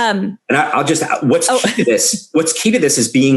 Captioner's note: laughing